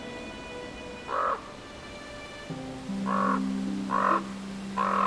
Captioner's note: crow caws